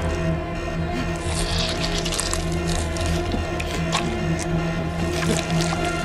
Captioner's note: tentacle crunching and squelching; moves to tense music